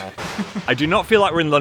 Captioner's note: laughing; thunder banging